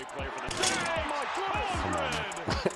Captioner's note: cheering